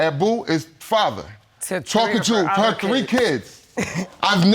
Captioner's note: laughs